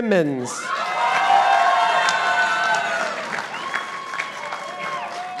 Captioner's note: participants applauding